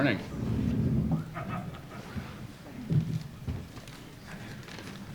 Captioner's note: microphone adjusts